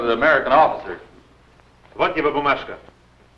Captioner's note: foreign language